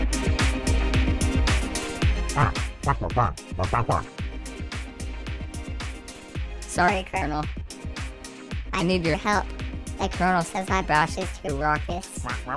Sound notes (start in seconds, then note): 2.3 angrily squawking